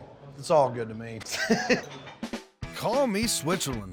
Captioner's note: laughs